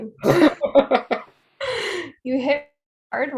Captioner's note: laughing